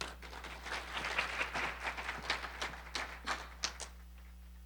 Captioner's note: audience applauding